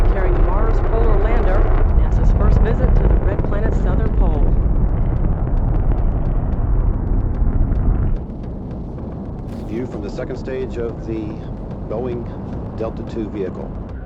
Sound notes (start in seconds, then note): 4.8 rocket engine roaring